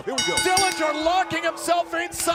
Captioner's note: bell ringing